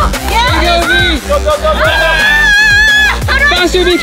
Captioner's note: cheering; screaming